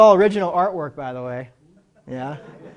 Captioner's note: laughter